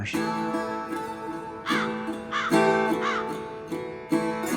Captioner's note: bird squawking